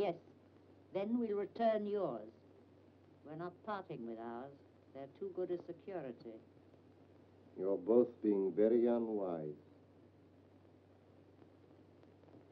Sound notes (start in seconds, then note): none